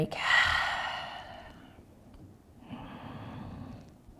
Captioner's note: breathing